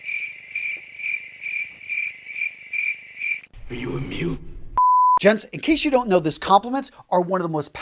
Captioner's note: sound effect